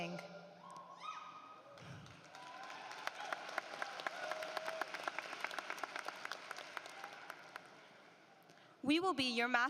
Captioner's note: applause